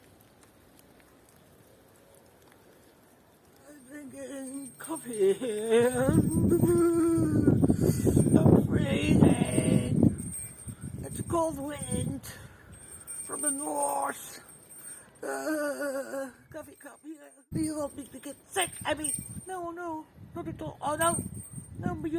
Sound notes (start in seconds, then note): 7.0 shivering